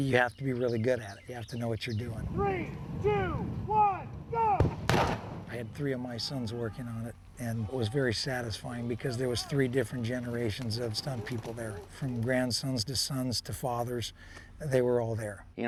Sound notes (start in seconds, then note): 2.4 man shouting; 4.5 explosion